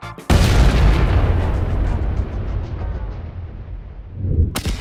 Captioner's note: massive explosion sound